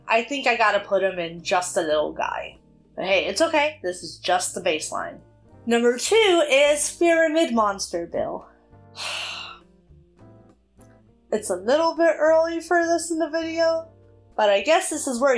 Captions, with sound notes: I think I’ve gotta put him in “Just a lil guy.” But hey, it’s okay, this is just the baseline. Number 2 is fearamid monster bill. [sighs] It’s a little bit early for this in the video but I guess this is where